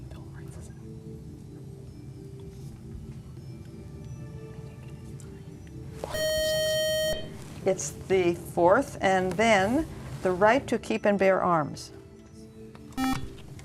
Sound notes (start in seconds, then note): 6.1 loud buzzer